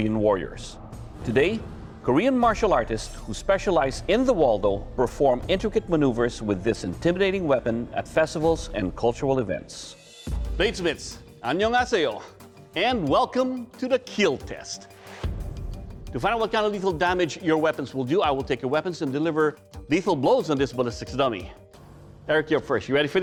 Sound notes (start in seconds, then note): 11.2 korean